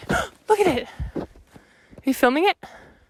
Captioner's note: gasps